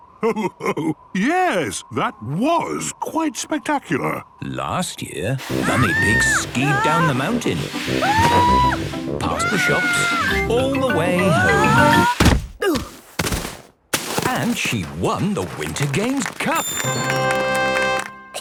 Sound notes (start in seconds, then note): 9.3 screaming; 12.3 exclaiming and grunting; 16.7 triumphant music